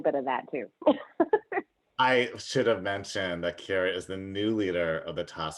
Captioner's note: laughter